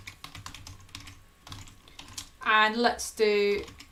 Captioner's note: keyboard clicking